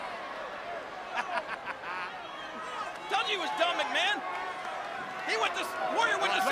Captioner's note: laughing